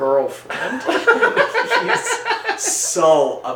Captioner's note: both laugh